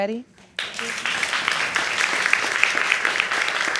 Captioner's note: audience applauds